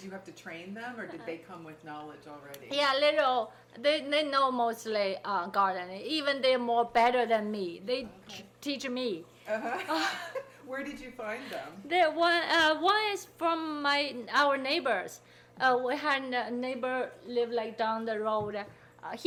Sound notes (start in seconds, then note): 9.5 people laughing